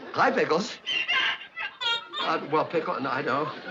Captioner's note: pickles crying on phone